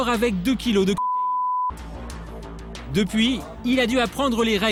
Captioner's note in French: bip